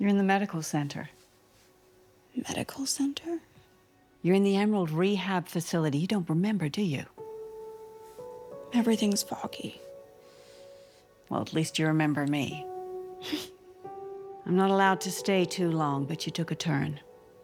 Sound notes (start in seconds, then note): 13.2 Dorothy laughs